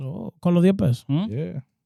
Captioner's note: speaking In Foreign Language